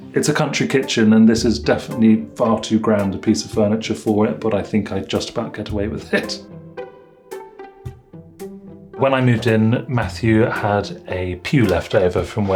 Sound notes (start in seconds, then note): 6.0 chuckles